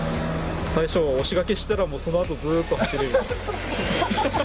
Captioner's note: laughs